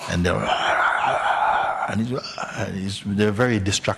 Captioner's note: makes growling sounds